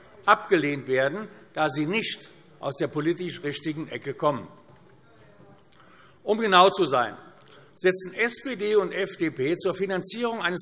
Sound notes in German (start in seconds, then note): none